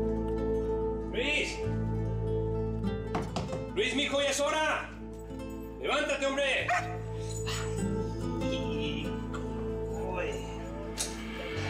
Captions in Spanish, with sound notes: ¡LUIS! [TOQUES EN LA PUERTA] ¡LUIS, M'HIJO, YA ES HORA! ¡LEVÁNTATE, HOMBRE! [LADRIDO] ¡AY! GOOD BOY.